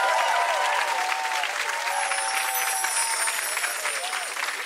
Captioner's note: audience applauds; chimes tinkle